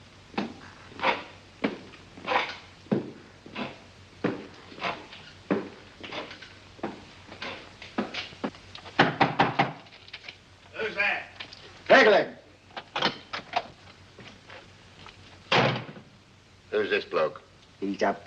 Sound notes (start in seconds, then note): 0.0 wooden leg thumping; 9.0 knocking on door; 12.8 door opens; 15.5 door closes